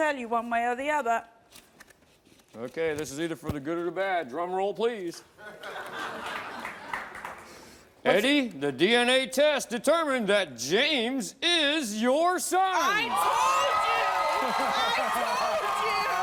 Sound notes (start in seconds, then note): 5.5 audience laughs